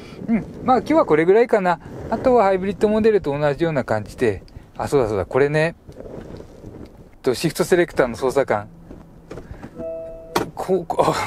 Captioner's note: clunk-clunk